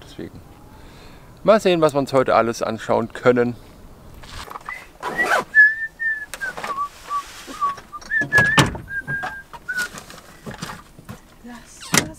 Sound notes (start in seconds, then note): 4.5 is whistling